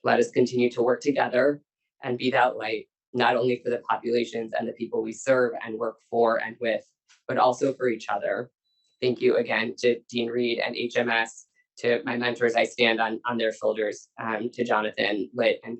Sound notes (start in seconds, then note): none